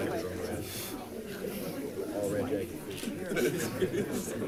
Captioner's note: crowd chatting